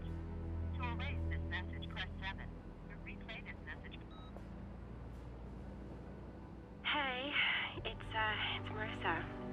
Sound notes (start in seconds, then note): 3.8 beep